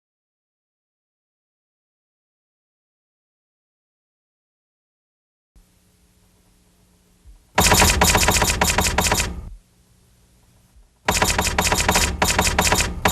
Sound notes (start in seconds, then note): 7.6 typewriter clicking